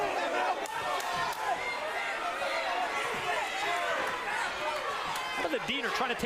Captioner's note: crowd noise